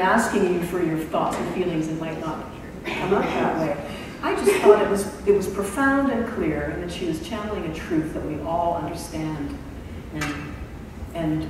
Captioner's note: laughter